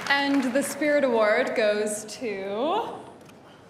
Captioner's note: applause